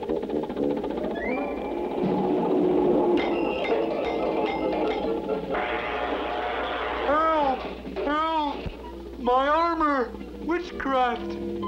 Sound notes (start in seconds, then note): 3.1 klank, Klank, Klank